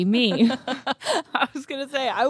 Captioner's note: laughs